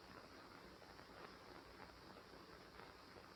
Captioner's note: none